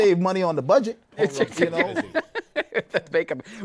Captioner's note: laughs